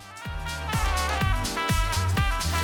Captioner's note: applause